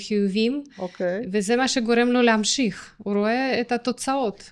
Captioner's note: snorts of contempt